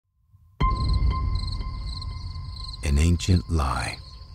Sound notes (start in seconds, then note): 0.6 light music; 0.6 crickets chirping